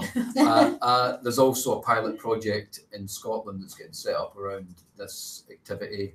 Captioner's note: laughter